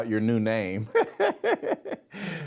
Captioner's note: laughing